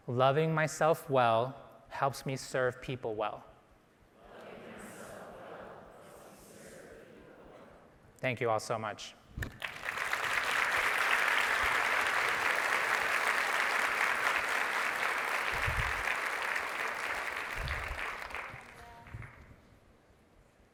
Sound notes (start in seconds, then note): 9.6 audience applauding